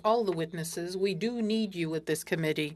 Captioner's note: speaking French